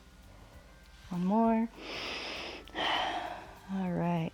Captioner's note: inhales and exhales